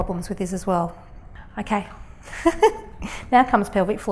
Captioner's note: laughs